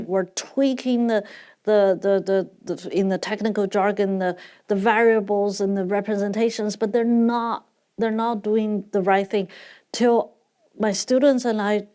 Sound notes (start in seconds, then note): none